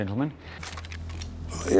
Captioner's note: gun clicking